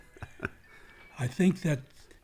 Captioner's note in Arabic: يضحك